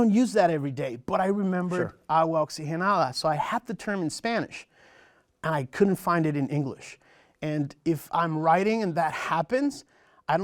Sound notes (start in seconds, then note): 2.3 foreign language